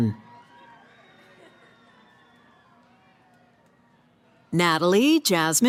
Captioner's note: cheering